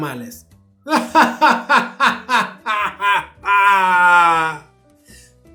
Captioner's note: evil laughter